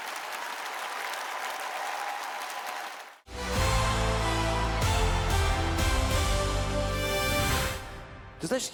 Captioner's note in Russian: аплодисменты